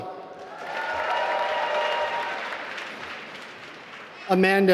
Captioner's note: applause